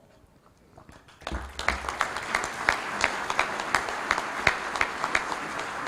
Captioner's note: applause